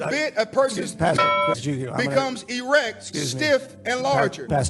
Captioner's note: bell dings